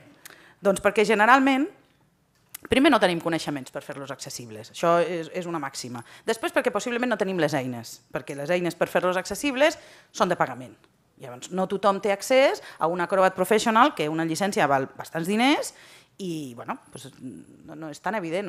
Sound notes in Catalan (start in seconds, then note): none